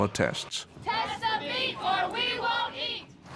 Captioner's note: crowd chanting